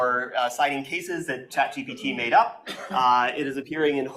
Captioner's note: chattering drowns out